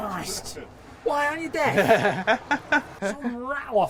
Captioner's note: laughing